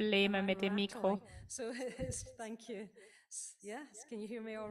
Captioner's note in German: Lachen